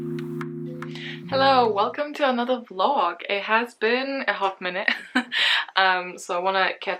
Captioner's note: laughs